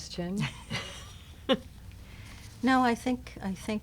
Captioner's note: laughing